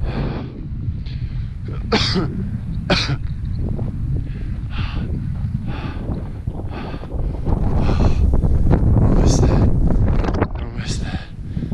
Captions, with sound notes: (wind whipping) (coughing) (breathing heavily) Almost there, almost there.